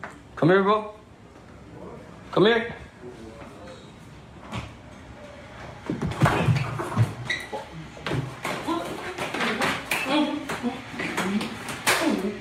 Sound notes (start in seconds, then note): 8.3 grunting